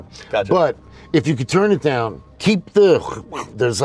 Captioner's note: grunting